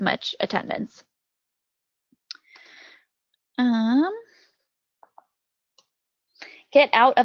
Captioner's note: silence